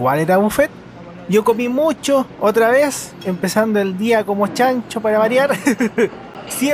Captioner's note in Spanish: risas